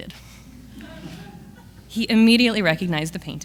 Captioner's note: audience laughs